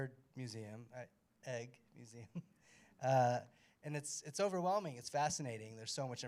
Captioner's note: chuckles